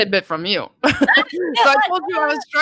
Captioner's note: laughing